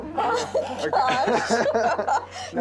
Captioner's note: laughter